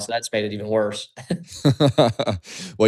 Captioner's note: laughter